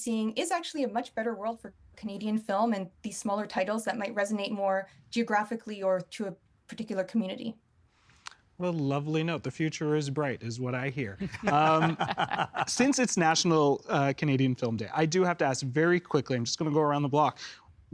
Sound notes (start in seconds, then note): 11.2 laughing